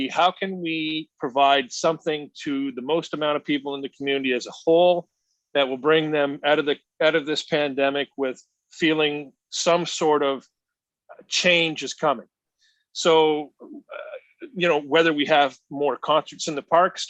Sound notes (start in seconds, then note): none